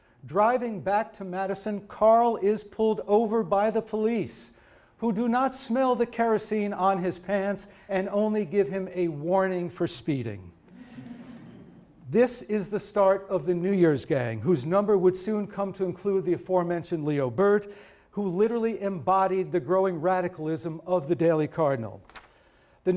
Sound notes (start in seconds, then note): 10.7 audience chuckling